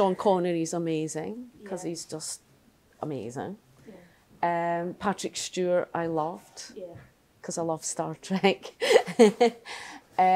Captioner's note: laughter